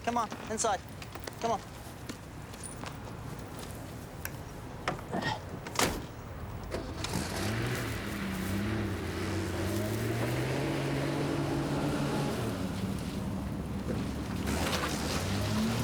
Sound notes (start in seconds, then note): 5.1 Gary sighs; 5.6 car door thuds; 7.1 car engine rumbling